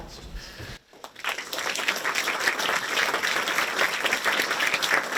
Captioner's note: audience applauds